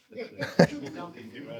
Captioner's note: laughing